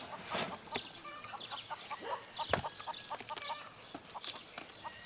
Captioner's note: chickens clucking